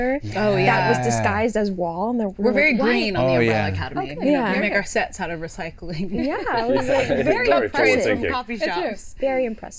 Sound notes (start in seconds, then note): 6.5 laughing